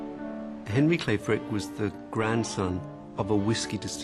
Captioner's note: voiceover